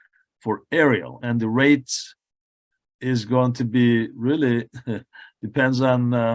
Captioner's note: chuckles